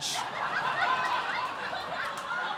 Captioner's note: laughter